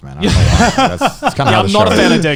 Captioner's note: laughs